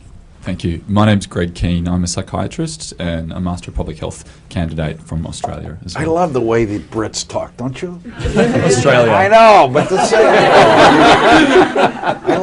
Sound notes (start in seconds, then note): 8.1 laughter